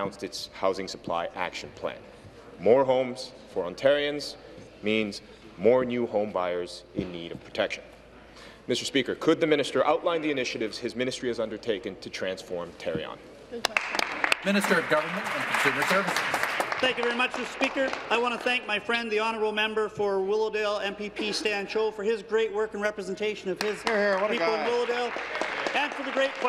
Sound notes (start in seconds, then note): 16.6 applause